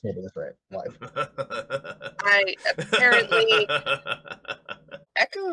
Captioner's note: laughing deeply